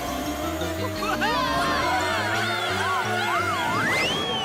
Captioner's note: screaming; yelling